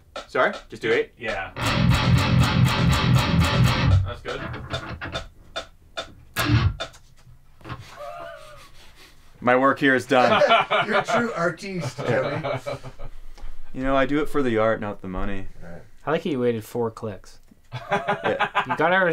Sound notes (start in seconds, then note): 1.4 plays chords; 4.9 metronome pulsing; 7.8 laughing; 11.6 all laughing; 17.7 laughs